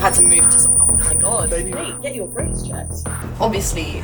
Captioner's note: high pitched whir returns